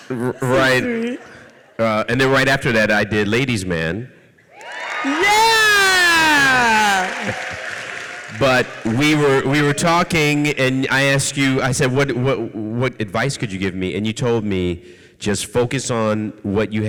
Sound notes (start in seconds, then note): 4.5 audience cheers